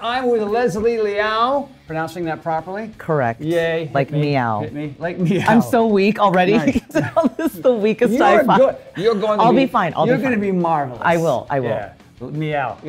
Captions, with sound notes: I'm with Leslie Liao pronouncing that properly. - Correct. Like meow. - Yay. It hit me. Like meow. - I'm so weak already because all this the weakest. (laughs) - You're good. You're going to be, - I'll be fine. I'll be fine. - You're gonna be marvelous. I will. I will. - Yeah. Meow.